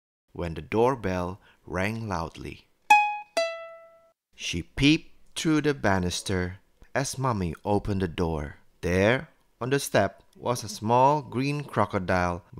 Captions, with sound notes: when the doorbell rang loudly [door bell rings] she peeped through the banister as Mummy opened the door There on the step was a small green crocodile